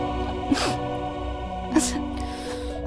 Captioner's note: Asmi sobbing